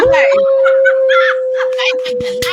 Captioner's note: laughter